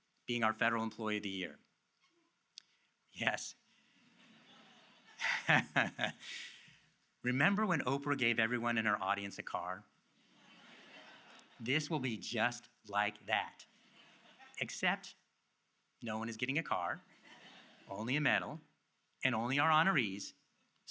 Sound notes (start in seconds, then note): 4.1 audience laughs; 5.1 laughs; 10.2 audience laughs